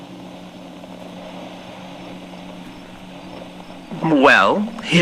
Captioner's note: crickets fx